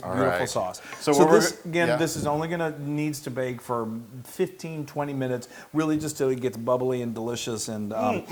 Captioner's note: none